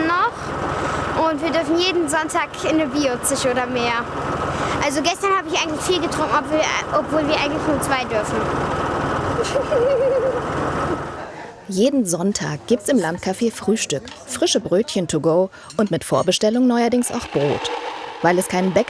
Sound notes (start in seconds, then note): 9.4 she giggles